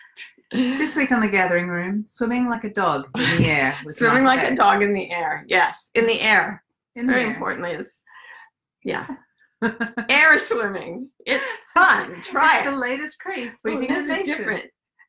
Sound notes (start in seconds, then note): 9.6 laughs